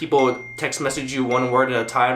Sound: text tone

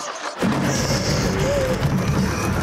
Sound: rattling, intense sounds; gasping

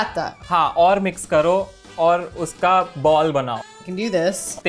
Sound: speaking in Hindi

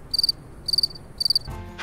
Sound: crickets chirping

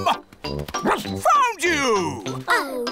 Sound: barks

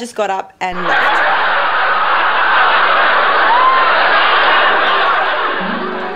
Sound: laughing

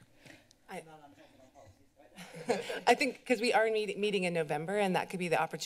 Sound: laughter

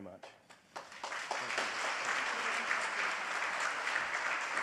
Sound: audience applauds

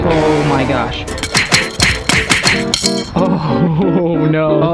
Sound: smacking

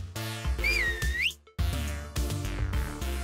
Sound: whistling; upbeat electronic music

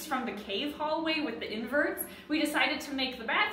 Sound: none

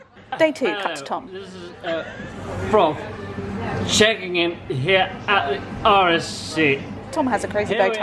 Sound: slurred

